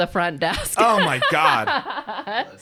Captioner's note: laughs